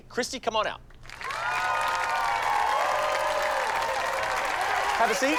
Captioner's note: cheering and applause